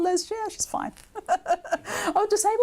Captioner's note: laughing